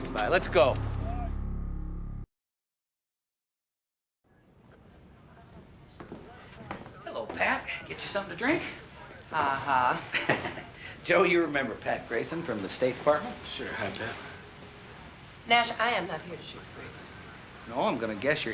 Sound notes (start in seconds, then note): 9.3 chuckles